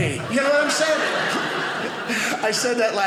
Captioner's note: audience laughing